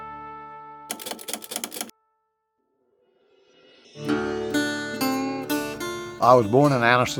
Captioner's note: typewriter clatters; gentle music